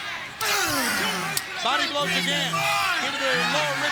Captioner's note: wrestlers grunting